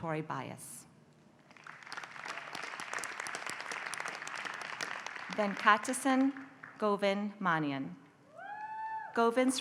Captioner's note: applause